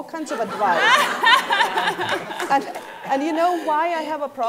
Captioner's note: laughing